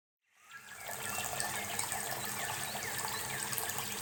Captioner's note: water bubbling